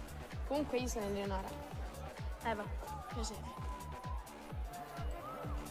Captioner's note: upbeat music; speaking foreign language